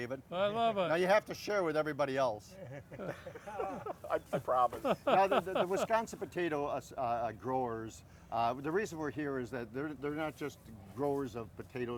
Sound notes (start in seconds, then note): 2.6 all laughing; 2.6 laughing